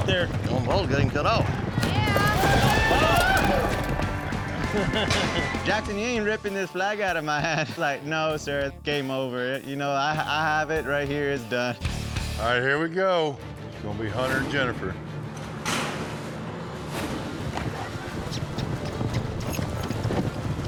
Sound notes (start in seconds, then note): 1.8 cowboys cheering; 15.2 gates clank open; 15.2 hoofbeats